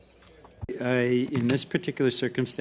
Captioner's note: speaking French